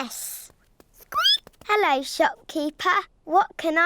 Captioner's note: squeaks